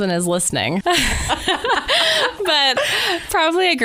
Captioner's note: laughter